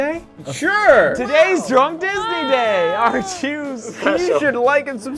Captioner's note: laughs